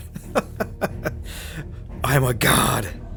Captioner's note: laughs